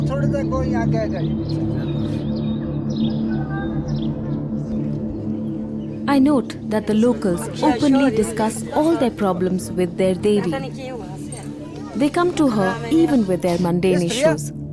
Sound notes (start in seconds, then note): 2.8 birds chirping; 2.8 dramatic music